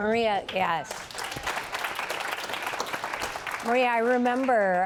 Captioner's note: applause